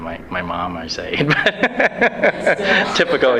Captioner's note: laughs